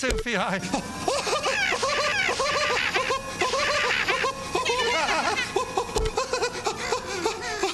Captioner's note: laughing hysterically